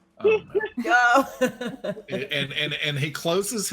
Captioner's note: laughs